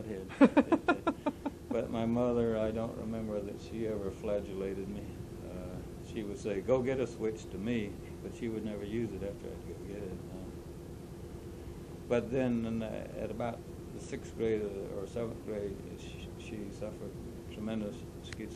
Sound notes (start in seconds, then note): 0.3 laughter